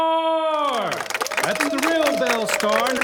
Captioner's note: audience applauding